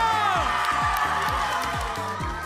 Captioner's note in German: Frenetischer Jubel